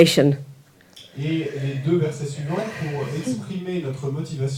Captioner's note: French